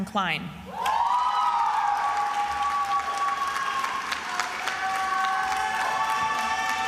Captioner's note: attendees applauding and cheering